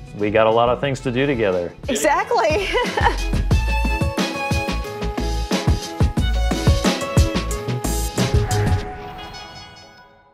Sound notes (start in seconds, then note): 1.9 laughs; 3.5 cheerful music